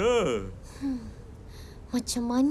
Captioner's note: sighs